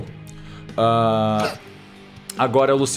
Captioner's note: snorts